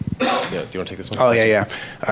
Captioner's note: audience member coughs